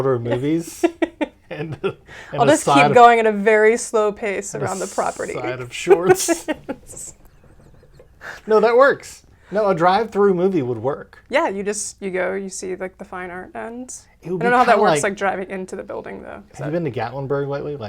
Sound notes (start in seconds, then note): 0.3 laughs; 4.6 laughs